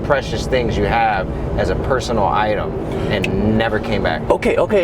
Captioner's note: snaps